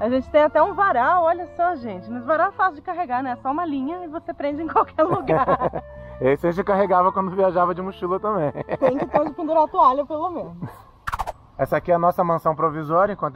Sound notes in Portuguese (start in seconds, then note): 8.4 risada; 11.0 som de transição